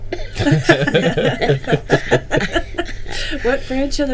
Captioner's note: group laughing